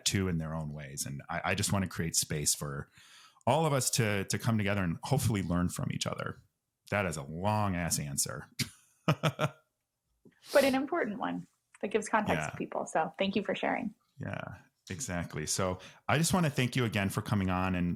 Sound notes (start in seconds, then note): 9.1 laughs